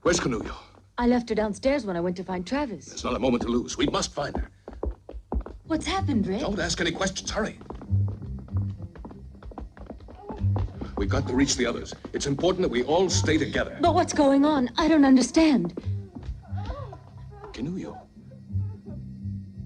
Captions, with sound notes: Where's Kinojo? I left her downstairs when I went to find Travis. There's not a moment to lose, we must find her. What's happened, Rick? Don't ask any questions, hurry! We've got to reach the others. It's important we all stay together. But what's going on? I don't understand. (Kinojo moaning) Kinojo?